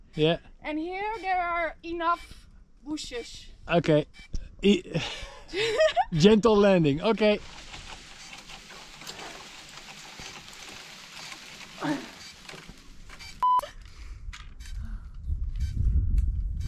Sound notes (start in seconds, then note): 7.0 tree shaking; 8.0 drone beeping